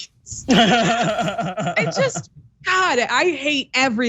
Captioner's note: laugh